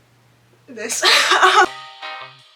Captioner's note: laughs